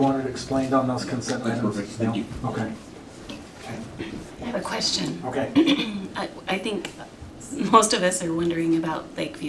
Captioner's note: clears throat